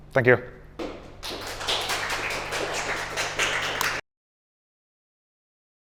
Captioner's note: applause